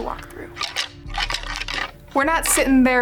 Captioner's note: antlers rattling